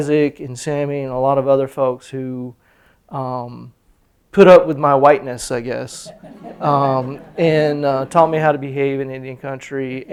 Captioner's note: laughter